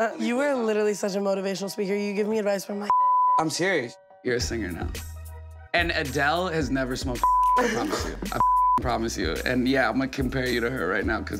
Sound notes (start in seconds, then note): 8.4 beep